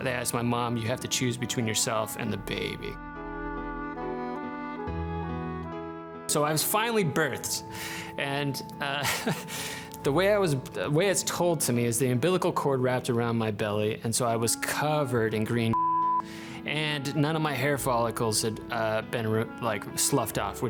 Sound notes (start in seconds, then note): 3.2 gentle melancholic music; 9.0 laughs; 15.7 beep